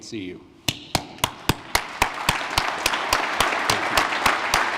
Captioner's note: applause